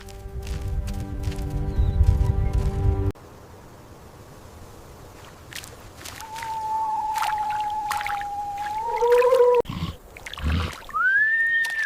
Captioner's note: snorts